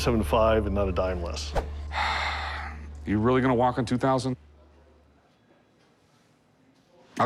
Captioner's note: sigh